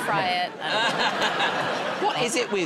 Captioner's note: laughter